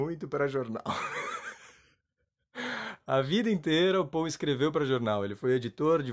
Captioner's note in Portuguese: risos